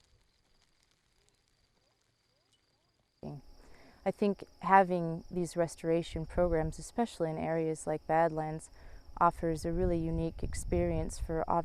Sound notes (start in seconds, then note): 0.0 rocks crunching; 1.8 crickets chirping